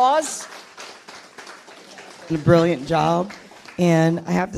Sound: audience applauds

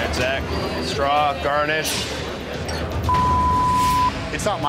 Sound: beep

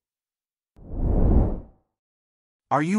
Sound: wind Blow's

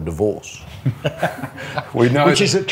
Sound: both laughing

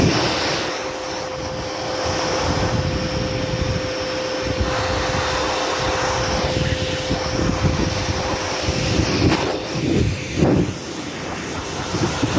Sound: vaccuum noise

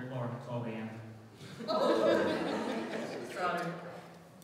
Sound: audience laughing

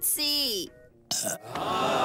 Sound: burps

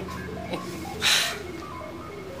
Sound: chuckling; exhales

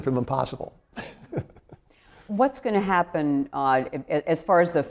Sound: laughs

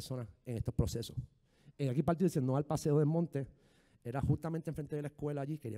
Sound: speaking in foreign language

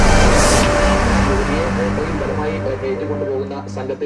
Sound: news Chatter in Television

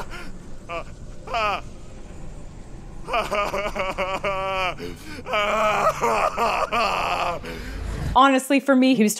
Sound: weeping

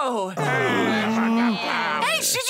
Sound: everyone grumbles

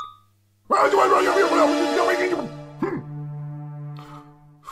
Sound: shouts loudly

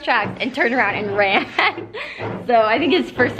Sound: laugh

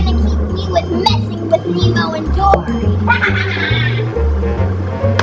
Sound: evil laughs

